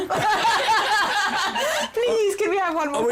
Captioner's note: laughter